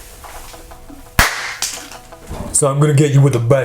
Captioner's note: pop